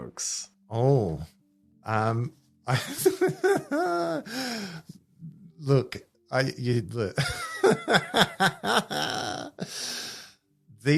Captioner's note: laughts